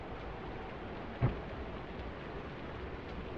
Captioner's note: thuds in distance